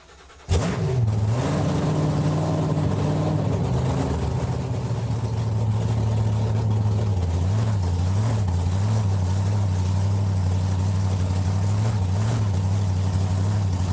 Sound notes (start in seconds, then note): 0.1 loud engine starting; 7.6 engine revving